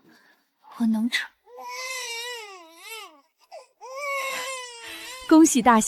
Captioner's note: waaaaaah